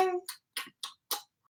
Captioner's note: blowing kisses